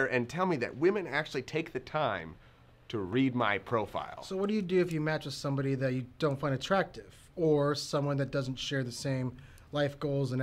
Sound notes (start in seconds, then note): none